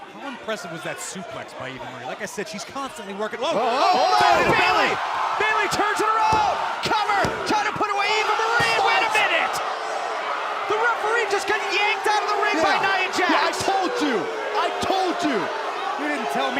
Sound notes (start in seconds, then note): 5.1 cheers & applause